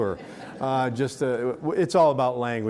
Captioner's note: audience laughing